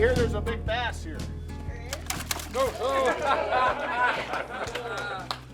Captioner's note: splashing; laughing